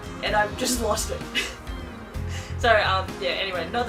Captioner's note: laughs